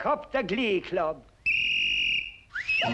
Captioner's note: whistle; birds warbling